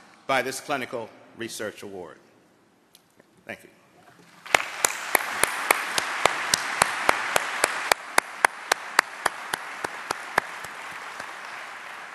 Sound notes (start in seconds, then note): 4.4 applause